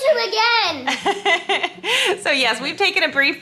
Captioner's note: woman laughs